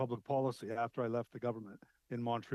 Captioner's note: speaking French